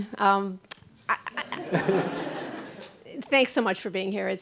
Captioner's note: laughing